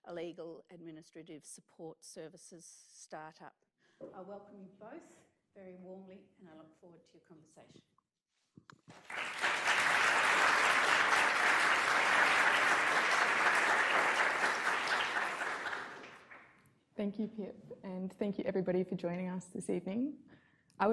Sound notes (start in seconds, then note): 8.9 audience clapping